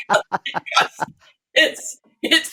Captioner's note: laughter